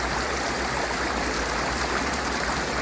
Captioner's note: gurgling water